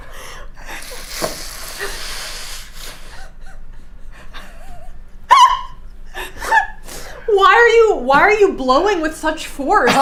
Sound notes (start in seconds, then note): 0.6 blows air; 4.0 laughing